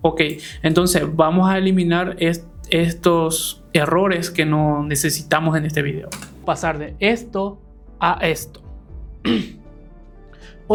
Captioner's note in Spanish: carraspeo